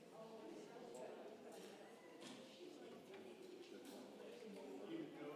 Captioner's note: congregation chattering